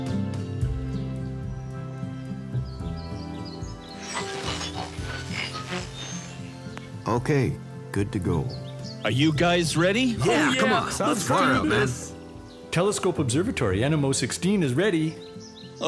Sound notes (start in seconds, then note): 4.1 radio static